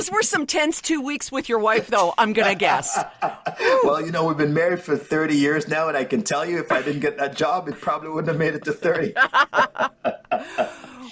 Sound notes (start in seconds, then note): 2.6 chuckles; 10.8 laughter